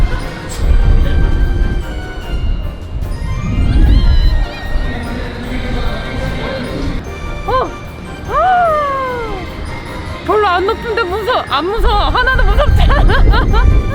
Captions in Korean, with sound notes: (비명) 살려주세요! 아... 헉~! 별로 안 높은데 무서... 안 무서워! 하나도 무섭지 않아! (웃음)